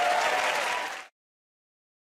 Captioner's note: cheers and applause